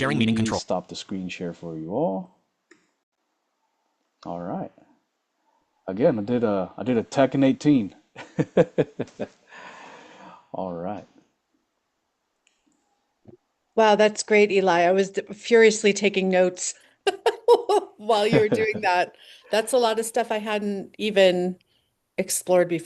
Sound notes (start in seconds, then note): 8.3 laughs